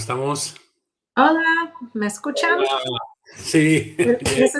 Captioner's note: in Spanish